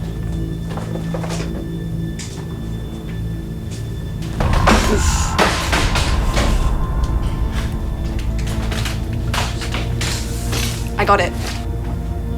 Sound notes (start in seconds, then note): 0.2 soft dramatic music; 6.3 bottle crashing